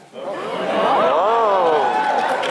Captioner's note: gasps